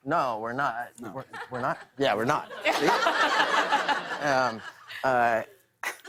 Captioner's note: laughter